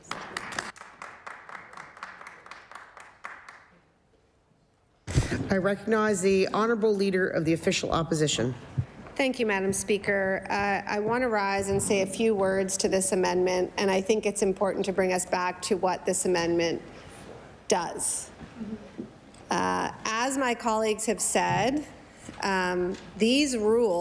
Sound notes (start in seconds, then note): 2.7 applause